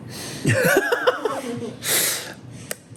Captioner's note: laughing